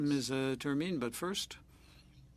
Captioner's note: speaking French